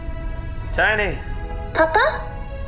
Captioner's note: playback noise